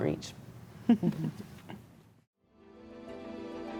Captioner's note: both chuckle; enlightening music